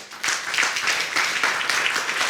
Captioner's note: audience clapping